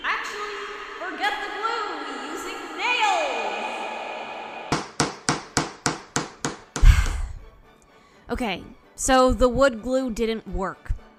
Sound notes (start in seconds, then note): 3.6 bang; 6.3 bang & sigh; 6.3 bang